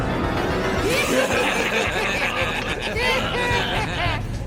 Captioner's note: laughing